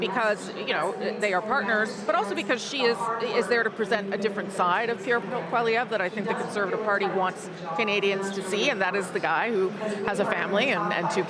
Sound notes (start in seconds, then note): none